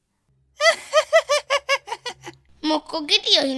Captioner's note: cat Laughs